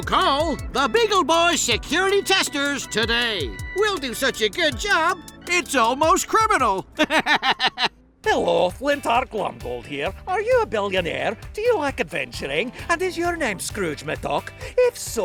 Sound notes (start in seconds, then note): 6.8 laughs